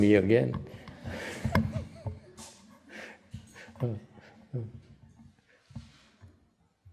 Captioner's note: laughter